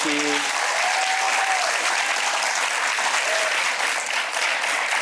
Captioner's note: audience clapping and cheering